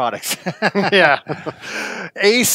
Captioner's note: laughing